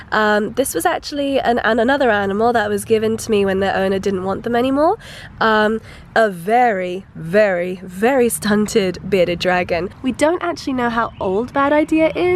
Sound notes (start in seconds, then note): none